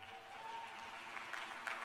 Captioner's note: applause